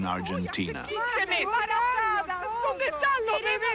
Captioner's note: women pleading